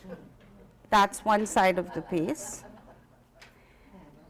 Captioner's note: quiet laughter